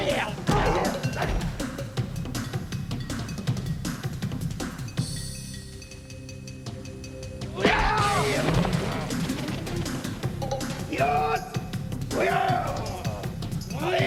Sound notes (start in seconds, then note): 4.4 yelling